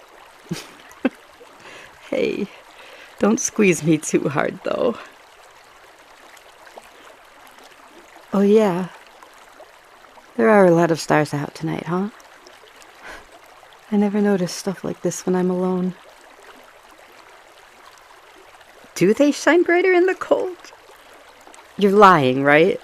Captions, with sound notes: [Laugh] Hey -- Don’t squeeze me too hard, though. Oh yeah. There are a lot of stars out tonight, huh? I never notice stuff like this when I’m alone. Do they shine brighter in the cold? You’re lying, right?